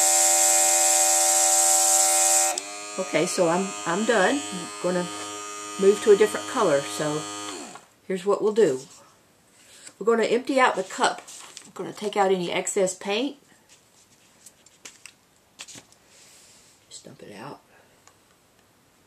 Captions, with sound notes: Okay, so I'm done. Gonna move to a different color. So. (airbrush stops buzzing) Here's what we'll do. We're going to empty out the cup, gonna take out any excess paint. Just dump it out.